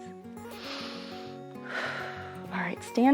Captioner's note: inhales and exhales